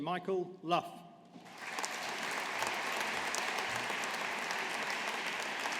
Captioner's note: audience applauding